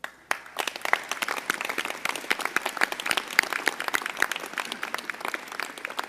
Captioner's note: applause